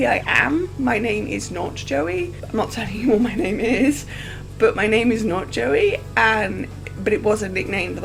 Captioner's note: laughs